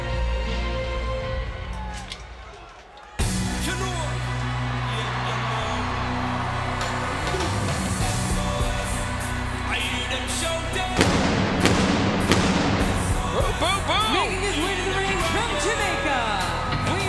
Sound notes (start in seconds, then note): 3.1 dramatic music; 10.9 fire blasting